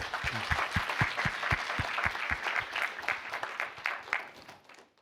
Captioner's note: applause